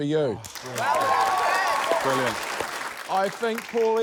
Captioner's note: cheering